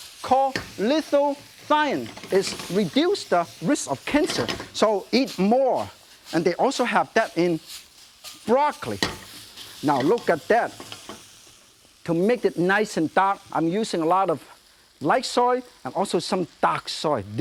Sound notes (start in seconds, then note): none